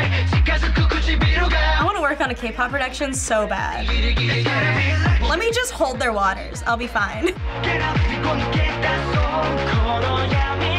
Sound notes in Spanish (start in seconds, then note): 7.1 risitas; 8.6 cantando en coreano